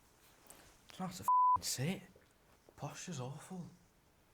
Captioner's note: beep